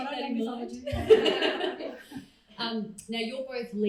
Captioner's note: crowd laughs